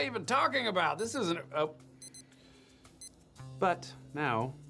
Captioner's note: watch beeps